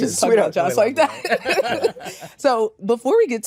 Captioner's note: laughter